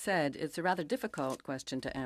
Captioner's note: speaking in French